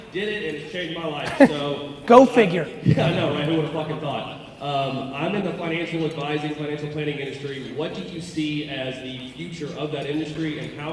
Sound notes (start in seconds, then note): 1.2 chuckles